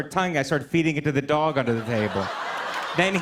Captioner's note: laughter